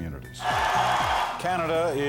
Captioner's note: cheering